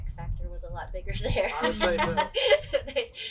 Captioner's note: laughs